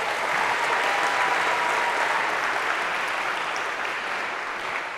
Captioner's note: applause